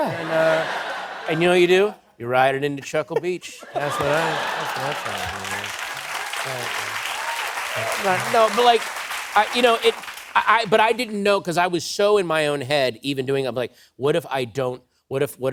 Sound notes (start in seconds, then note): 0.0 laughter; 5.1 laughter and applause